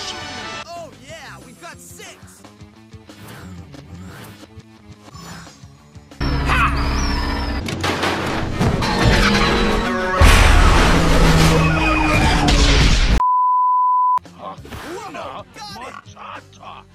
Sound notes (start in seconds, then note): 10.1 explosion; 10.2 crash